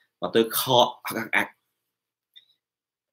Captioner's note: cough imitation